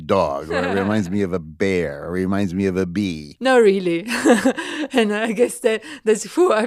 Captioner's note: laughs